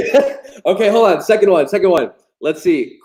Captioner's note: chuckles